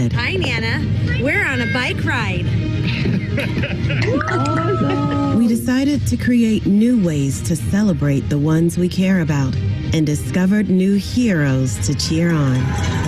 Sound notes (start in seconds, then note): 2.8 laughing; 3.9 screaming and cheering